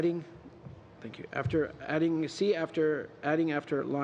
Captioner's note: speaking french